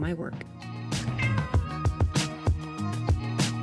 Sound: cat meows

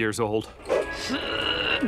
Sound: groaning

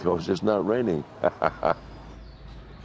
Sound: laughs

